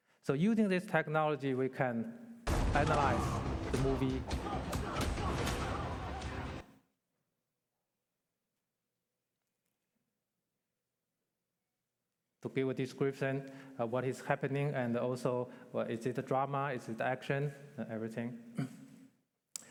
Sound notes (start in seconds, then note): 2.5 fighting sounds